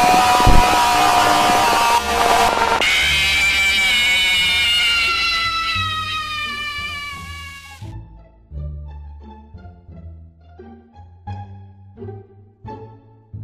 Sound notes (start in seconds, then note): 0.0 Toy Freddy's scream; 2.9 Foxy's scream